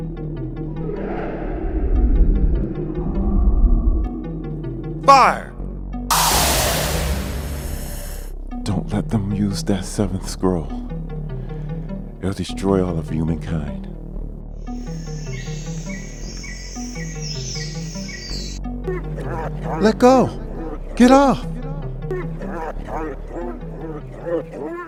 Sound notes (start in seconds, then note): 0.1 creature growling; 14.5 forest noises; 18.8 creature noises